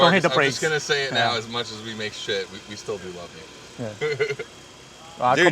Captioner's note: chuckles